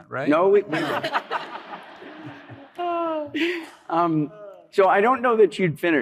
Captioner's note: laughter